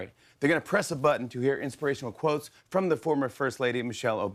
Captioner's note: none